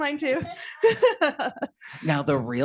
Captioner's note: laughing